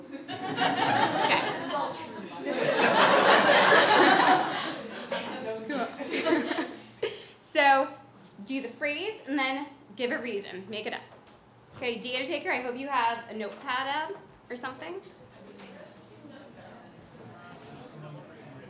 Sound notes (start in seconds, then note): 0.0 audience laughs; 2.6 audience laughs and chatters; 15.7 audience chatters